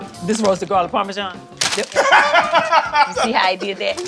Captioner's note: laughs